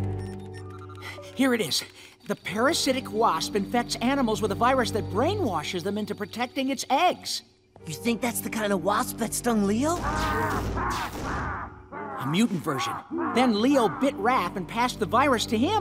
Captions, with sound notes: Here it is. The parasitic wasp infects animals with a virus that brainwashes them into protecting its eggs. You think that's the kind of wasp that stung Leo? [roaring, banging] A mutant version. Then Leo bit Raph and passed the virus to him.